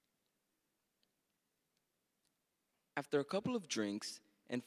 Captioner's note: none